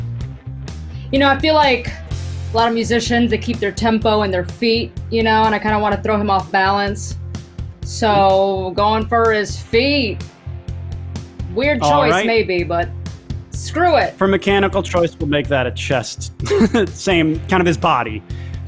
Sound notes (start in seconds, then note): 16.3 laughs